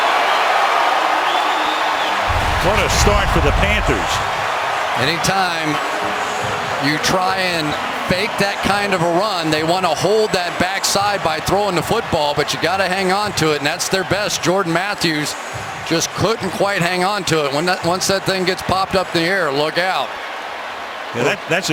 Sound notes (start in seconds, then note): 3.2 cheers